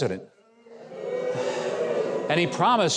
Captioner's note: audience booing